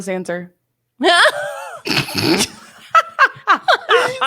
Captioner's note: both laugh